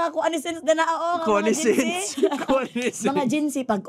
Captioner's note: chuckles